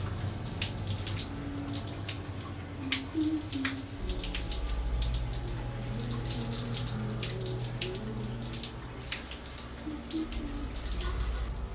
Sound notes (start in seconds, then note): 3.1 humming